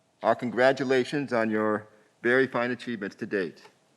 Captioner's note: none